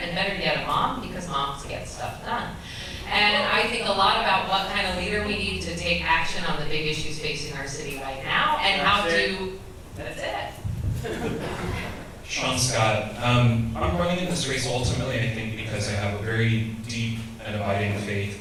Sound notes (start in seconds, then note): 10.8 audience chuckles